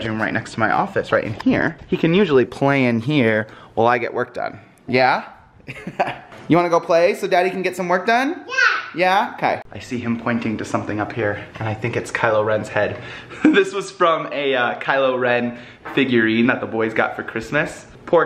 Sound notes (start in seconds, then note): 5.7 laugh